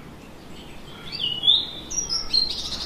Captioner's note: birdsong